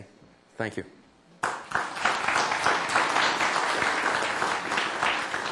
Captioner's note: applause